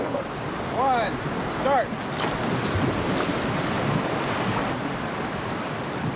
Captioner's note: water rushing